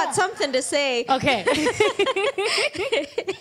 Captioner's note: both laugh